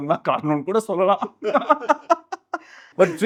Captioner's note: laughs